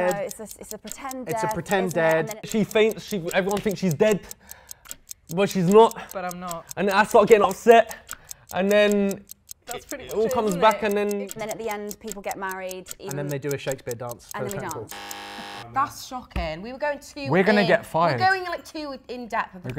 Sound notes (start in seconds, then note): 14.8 horn buzzing